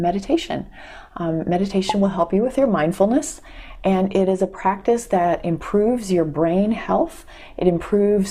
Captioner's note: pop